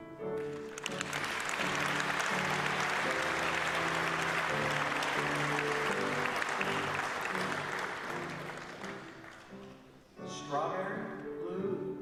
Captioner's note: applause; applause